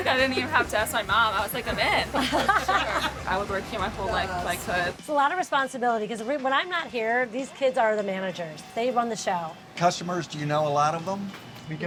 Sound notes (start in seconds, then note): 2.1 everyone laughing